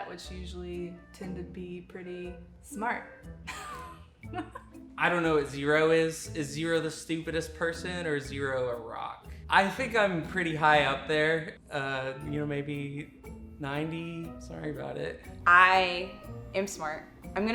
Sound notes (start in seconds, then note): 4.3 laughing